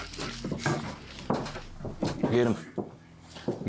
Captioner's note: footsteps thudding